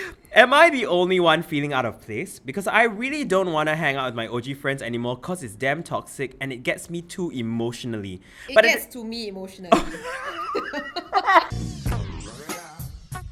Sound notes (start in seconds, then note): 11.1 gasp!